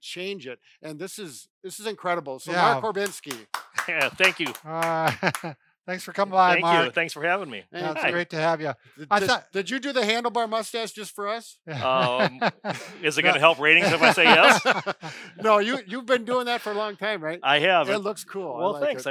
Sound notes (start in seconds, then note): 2.7 both clap; 3.7 laughs; 6.5 exclaims; 11.7 laughs; 14.6 both hosts laugh